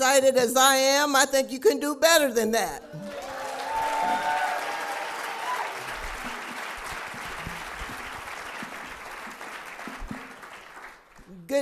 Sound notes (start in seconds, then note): 6.7 cheers and applause